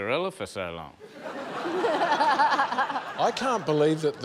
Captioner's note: laughter